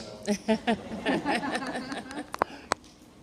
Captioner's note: laughter